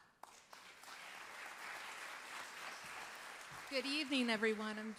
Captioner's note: audience applauds